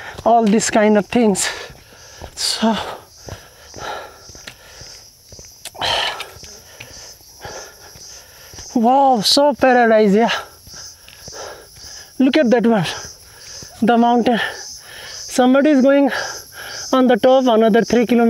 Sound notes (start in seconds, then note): 3.8 deep Breathing; 3.8 walking boots Sound